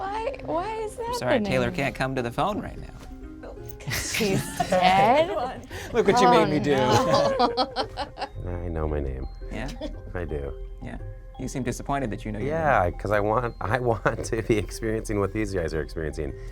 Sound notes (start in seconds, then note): 3.8 group laughs; 5.8 laughs